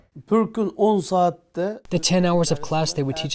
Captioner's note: speaking foreign language